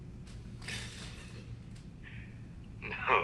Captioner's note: chuckling